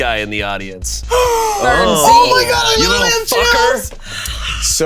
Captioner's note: Bug gasping